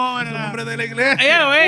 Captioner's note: speaking Spanish